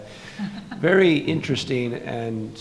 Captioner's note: laughing